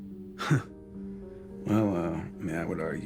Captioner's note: Kent chuckling